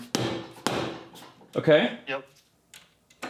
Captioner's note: hammer thumping